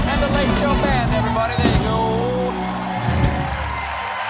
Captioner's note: cheers and applause